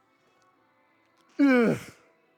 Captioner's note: grunting